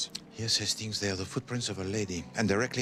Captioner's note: none